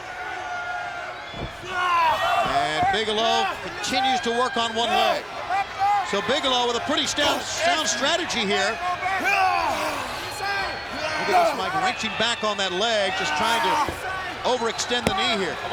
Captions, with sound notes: (Bigelow shouts) And Bigelow continues to work on one leg. So, Bigelow with a pretty sound strategy here. (both grunting) Look at this, Mike. Wrenching back on that leg, just trying to overextend the knee here.